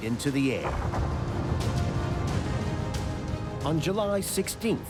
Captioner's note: explosion echoing